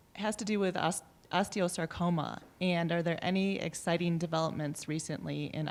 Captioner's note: none